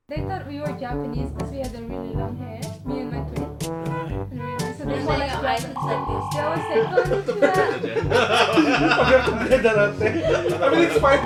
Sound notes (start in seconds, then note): 8.4 laughs